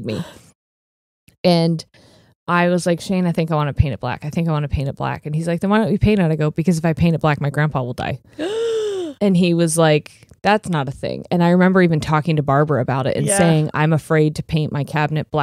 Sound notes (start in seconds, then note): 8.3 gasps